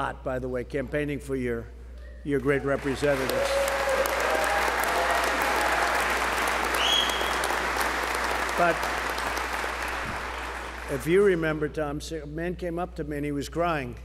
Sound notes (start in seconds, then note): 3.8 applause